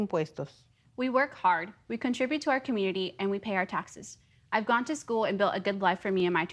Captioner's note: speaking foreign language